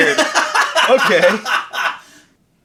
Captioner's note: laughing